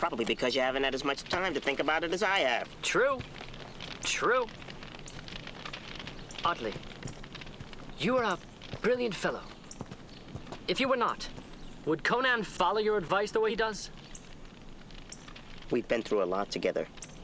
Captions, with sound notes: - That's probably because you haven't had as much time to think about as I have. (fire crackling) - True, true. Otli, you are a brilliant fellow. If you were not, would Conan follow your advice the way that he does? - We've been through a lot together.